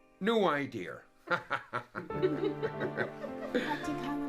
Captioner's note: laughing